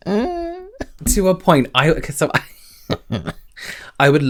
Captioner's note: chuckles